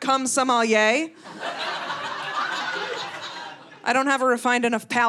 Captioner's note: audience laughing